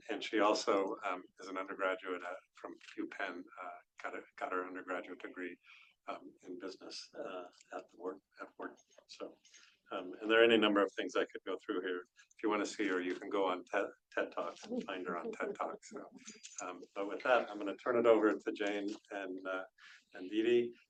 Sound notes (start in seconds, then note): 14.2 laughs